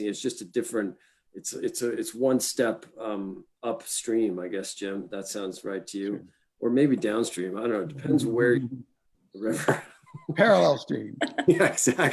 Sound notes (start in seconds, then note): 9.6 laughs